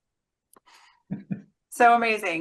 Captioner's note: laughs